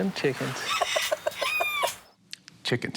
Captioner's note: clucking